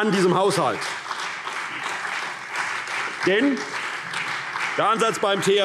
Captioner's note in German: Beifall CDU